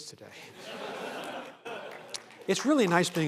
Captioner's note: laughter